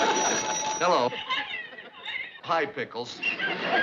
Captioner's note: phone rings; pickles crying on phone